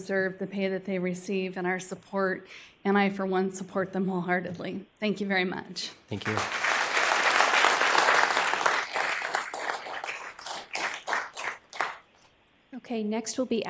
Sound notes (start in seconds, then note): 11.2 applause